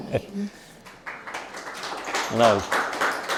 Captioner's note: applause